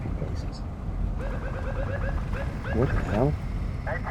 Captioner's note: police sirens bleeping